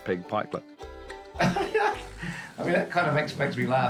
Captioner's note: laughs